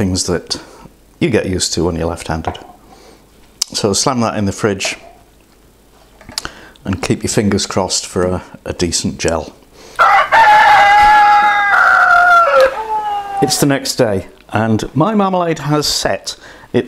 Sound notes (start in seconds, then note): 10.0 cock crowing